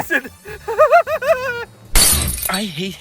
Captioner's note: crazed Laughter